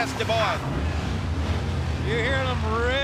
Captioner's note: motorcycle engines roaring